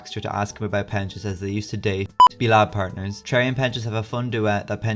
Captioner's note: beep